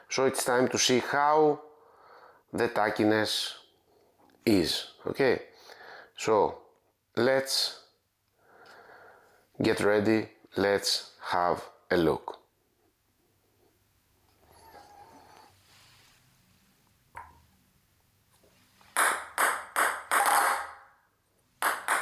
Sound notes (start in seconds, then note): 17.3 paddle tapping; 19.1 ball bouncing